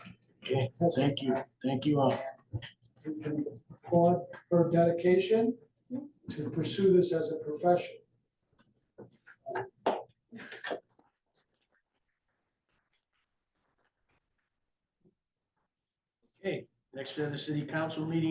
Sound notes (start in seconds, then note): 9.8 sound of clapping is cut off